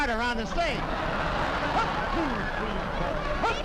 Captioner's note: audience laughing